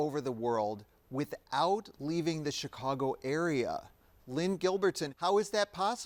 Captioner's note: none